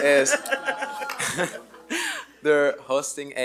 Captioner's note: board members laughing